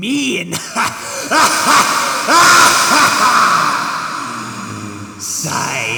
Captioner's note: laughs maniacally